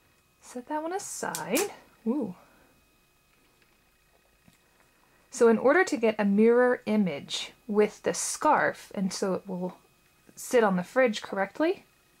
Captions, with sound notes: Set that one aside. [Magnets clicking] Whoa. So in order to get a mirror image with the scarf and so it will sit on the fridge correctly